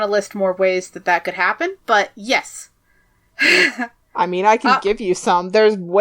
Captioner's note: laughs